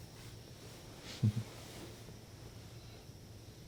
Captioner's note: chuckling